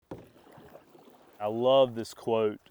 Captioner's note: water sloshing